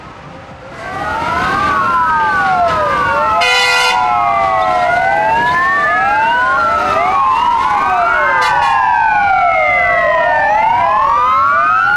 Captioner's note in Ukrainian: сирена